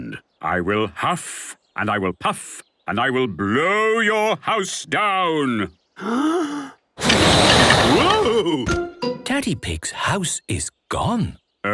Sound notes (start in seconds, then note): 6.0 inhaling deeply; 6.0 blowing